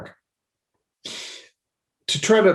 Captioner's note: sniffling